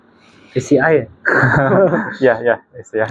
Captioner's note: laughs